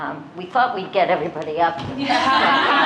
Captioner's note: laughter